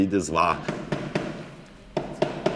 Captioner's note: hammering